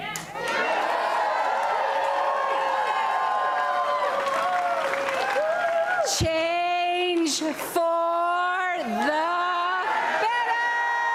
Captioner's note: applause and cheering